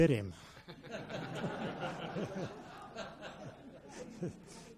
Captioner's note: audience laughs